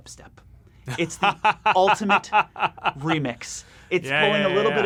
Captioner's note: laughs